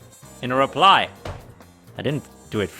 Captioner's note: distant thud